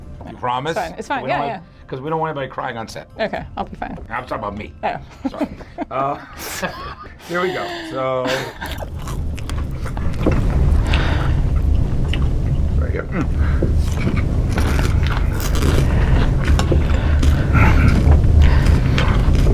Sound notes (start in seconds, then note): 8.2 horrific Chewing Sounds